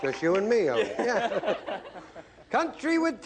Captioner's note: laughter